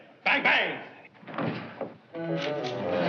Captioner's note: thud